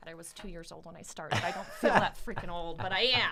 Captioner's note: laughs